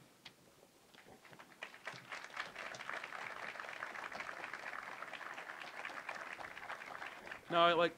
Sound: applause

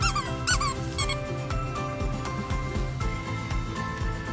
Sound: squeaks toy

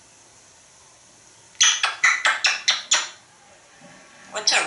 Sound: kissing sounds

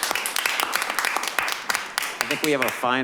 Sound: clapping

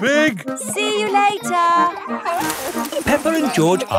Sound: peppa and george laughing

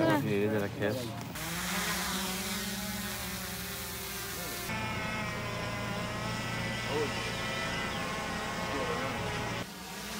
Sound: happy drone noise

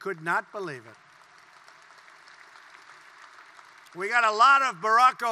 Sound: applause

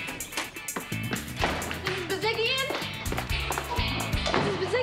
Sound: steps stomping

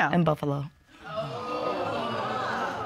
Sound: audience exclaims

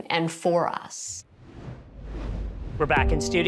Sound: logo whooshes

